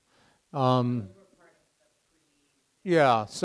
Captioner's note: student faintly speaking